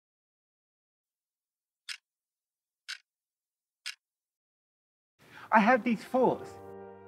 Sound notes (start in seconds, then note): 2.8 clock ticking